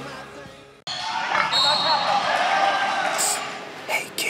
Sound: people cheering; whistle blowing

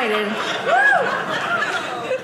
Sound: audience laughing

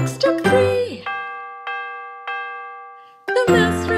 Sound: clock chimes

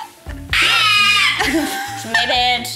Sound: screeching

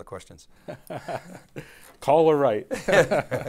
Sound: both chuckle

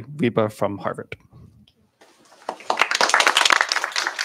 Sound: applause

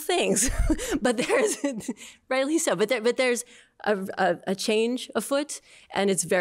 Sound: laughter

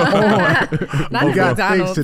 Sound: all laughing

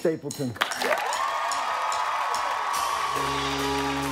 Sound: applause

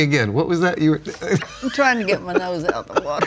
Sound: laughs

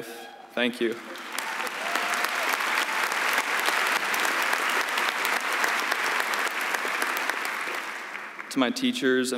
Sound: applause

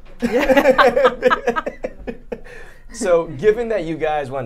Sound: both laughing

